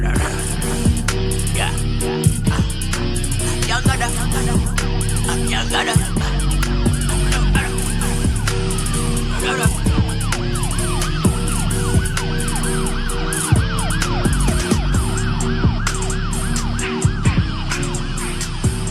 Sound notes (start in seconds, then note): 0.2 distorted guitar; 10.4 police sirens